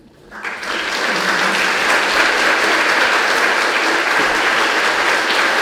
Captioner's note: congregation clapping